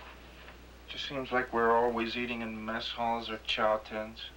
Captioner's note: none